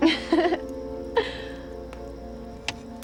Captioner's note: imitates buzzing; Brenda chuckles